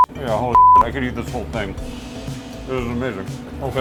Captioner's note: beep